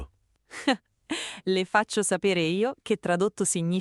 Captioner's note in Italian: Haha